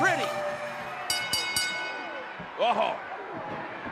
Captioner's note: bell dinging